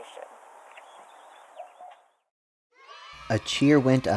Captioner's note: kids cheering